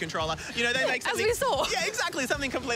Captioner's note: laughs